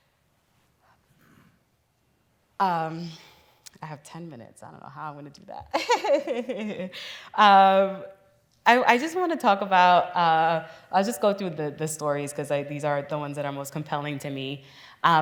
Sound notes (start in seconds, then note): 6.1 laughs